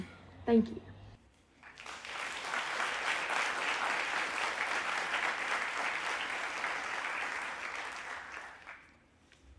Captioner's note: applause